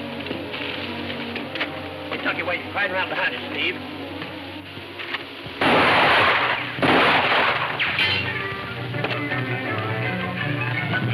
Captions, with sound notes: - Kentucky Wade's right around behind you, Steve. (guns firing) (dramatic music playing)